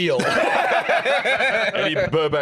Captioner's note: all laughing